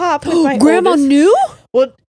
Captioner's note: gasps